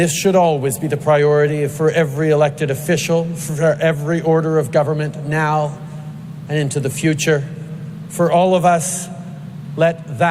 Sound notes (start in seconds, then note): none